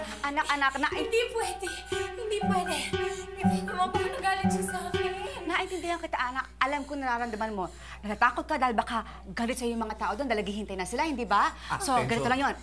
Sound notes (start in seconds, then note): 5.3 panting